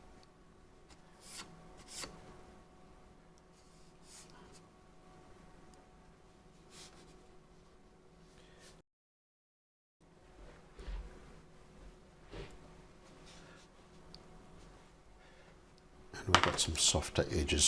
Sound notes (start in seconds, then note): 0.0 silence; 9.0 silence